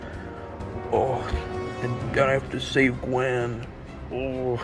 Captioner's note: groan